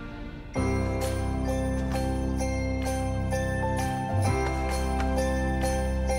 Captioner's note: upbeat festive music; bells jingling